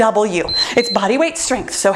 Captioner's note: timer beeps